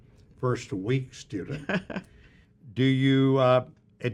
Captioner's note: chuckles